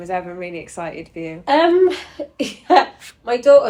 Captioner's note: laughs